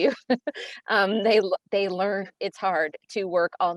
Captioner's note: chuckles